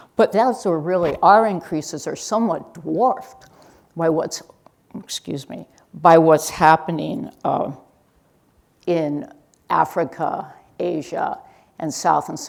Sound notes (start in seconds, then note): none